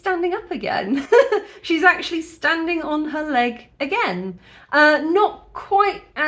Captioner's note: laughing